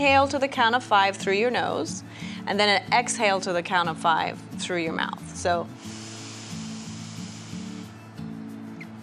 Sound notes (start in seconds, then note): 5.8 inhale